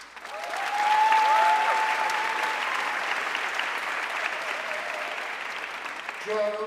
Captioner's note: audience cheering and applauding